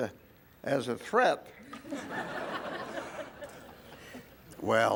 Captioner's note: laugh